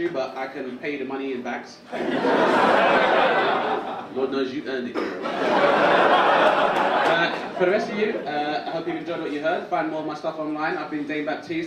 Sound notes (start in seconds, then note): 3.4 audience laugh; 6.9 audience laugh